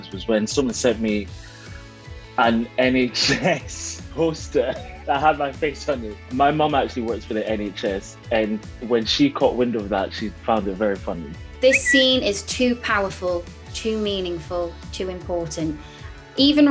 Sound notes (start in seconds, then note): 4.2 Ncuti laughing